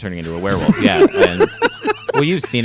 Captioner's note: laughing